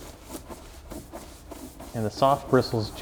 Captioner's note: scratching